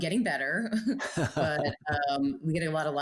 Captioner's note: both laughing